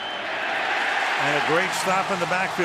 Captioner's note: cheering